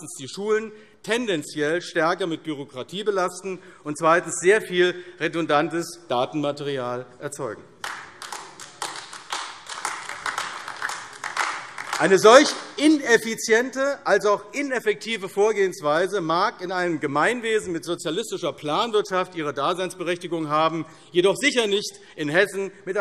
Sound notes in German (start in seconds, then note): 7.8 Beifall AfD